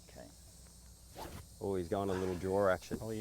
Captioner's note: club whistles